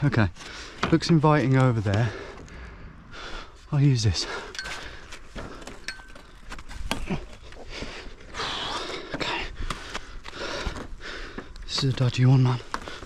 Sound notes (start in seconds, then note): 5.5 metal clinking; 6.9 panting